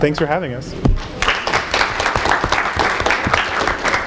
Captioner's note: applause